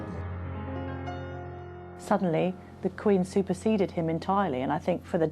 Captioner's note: voiceover